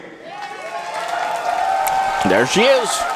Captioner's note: audience cheers and claps